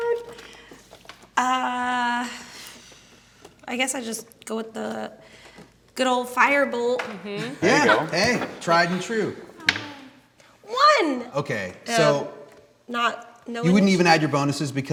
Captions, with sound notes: - I guess I just go with the good old fire bolt? - Yeah, hey, tried and true. (die clacking) - One! - Okay, so you wouldn't even add your bonuses